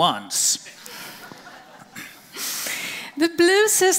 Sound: audience laughing

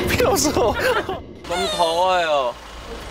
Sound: whiny

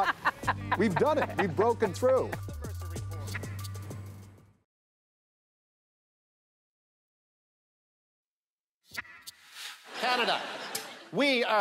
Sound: laughter

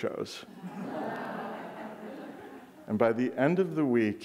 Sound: audience laughing

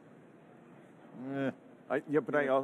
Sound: vocalizing

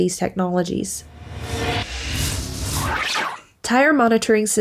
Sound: digital effects

